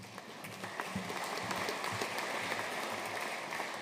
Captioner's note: audience applauding